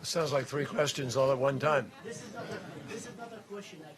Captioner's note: laughter